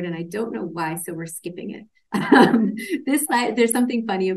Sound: laughs

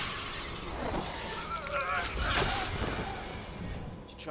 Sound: groaning

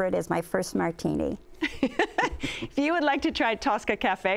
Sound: laughter

